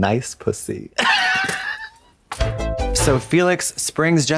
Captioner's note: Katya rasps